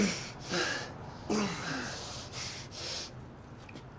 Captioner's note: men panting